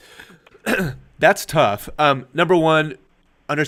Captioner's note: clears Throat